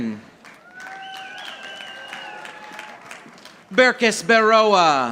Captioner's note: audience applauding